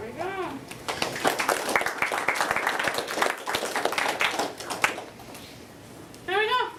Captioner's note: applause